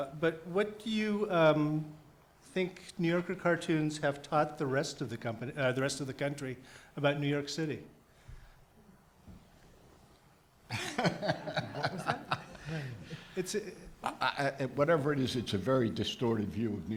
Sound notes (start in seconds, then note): 10.7 laughing